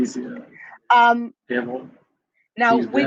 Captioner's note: foreign